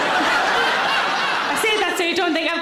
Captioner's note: audience laughing